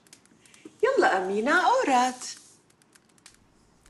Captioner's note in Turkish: Arapça konuşma